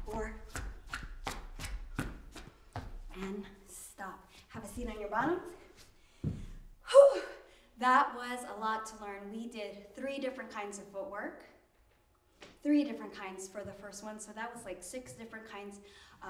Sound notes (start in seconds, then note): 0.0 shoes squeaking; 7.2 exhales